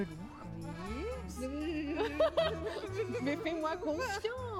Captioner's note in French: gémissement nerveux; rire